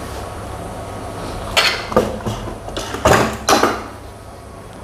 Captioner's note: press machine noise